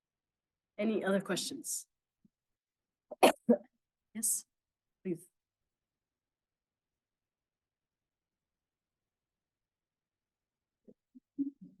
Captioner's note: coughing